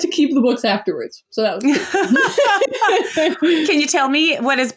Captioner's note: laughs